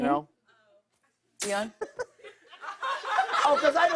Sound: laughter

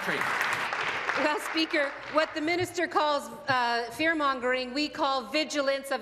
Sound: applause

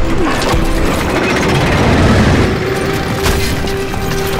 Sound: gate creaking

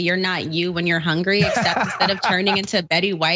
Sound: laugh

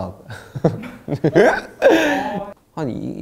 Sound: hahahahaha

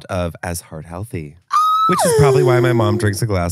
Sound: gasps

